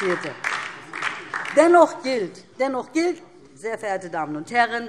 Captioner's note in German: Beifall DIE LINKE